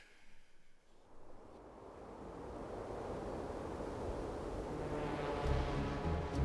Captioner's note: suspenseful music; wind whirls